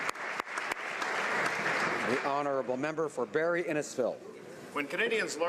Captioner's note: applause